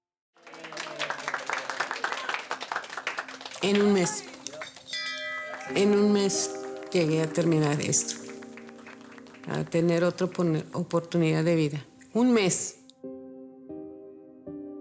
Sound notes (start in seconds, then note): 0.4 hospital staff cheering and clapping; 3.6 bell clanging; 5.7 speaking in a foreign language